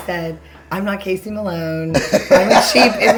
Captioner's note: laughing